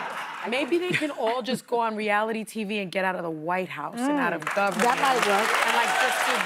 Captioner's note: laughter